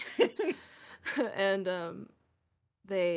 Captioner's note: laughs